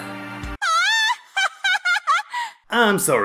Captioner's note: laugh intensifies